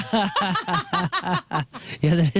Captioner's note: laughing